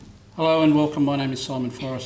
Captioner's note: foreign language spoken